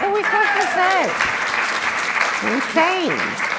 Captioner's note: applause